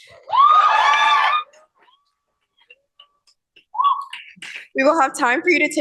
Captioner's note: cheering